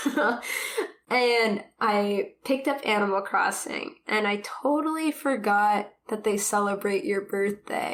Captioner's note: laughs